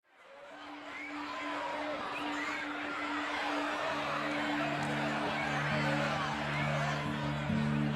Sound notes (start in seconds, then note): 0.2 crowd clamoring